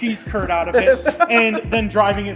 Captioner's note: laughs